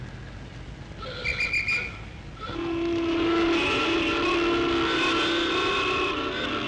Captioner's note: whistle blows; horns blare